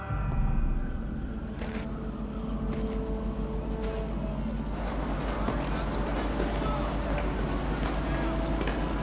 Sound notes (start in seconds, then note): 0.7 wind whistling; 4.7 helicopter whirring